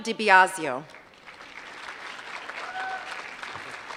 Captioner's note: applause